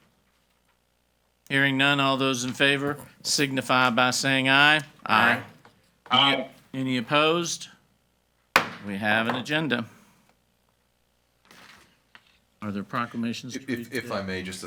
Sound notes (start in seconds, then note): 8.6 hammer slamming